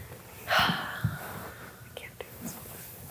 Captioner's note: sighs